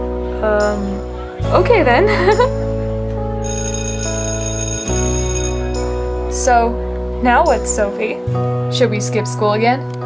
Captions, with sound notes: -Um, okay then! (laughs) (school bell rings) -So, now what, Sophie? -Should we skip school again?